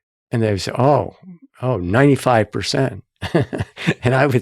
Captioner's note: chuckling